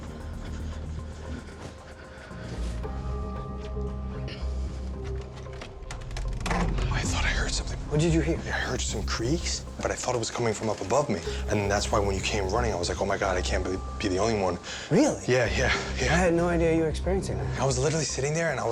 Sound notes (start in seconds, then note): 0.0 heavy breathing; 4.8 shuffling; 7.1 whispering